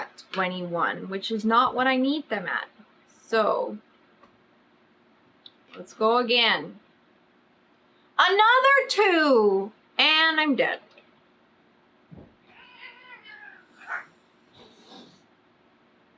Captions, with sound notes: 21 WHICH IS NOT WHAT I NEED THEM AT SO LET'S GO AGAIN ANOTHER TWO AND I'M DEAD [CAT YOWLS]